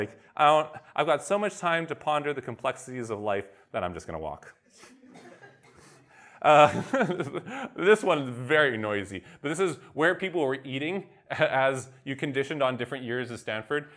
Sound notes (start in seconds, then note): 4.7 laughter; 6.6 laughs